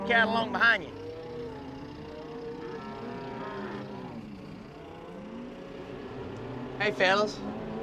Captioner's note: mooing